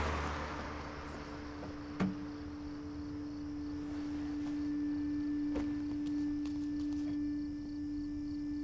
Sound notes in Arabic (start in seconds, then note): 3.6 خطى تقترب